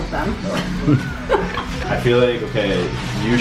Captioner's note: laughing